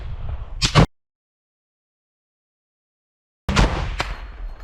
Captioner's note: shoots from AT-4